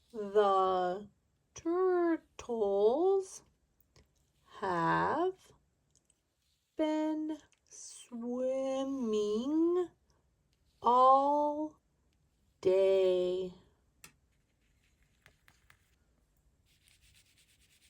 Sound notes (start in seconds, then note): none